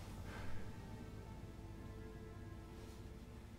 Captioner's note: Mark sighs